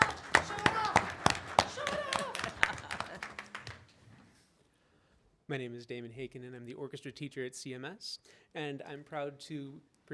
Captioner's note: applause